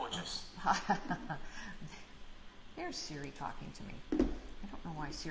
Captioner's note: laughs